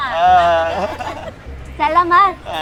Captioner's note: everyone laughing